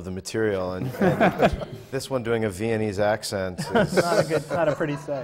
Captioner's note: laughter